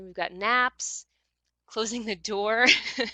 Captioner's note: laughs